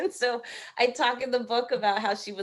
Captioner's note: laughing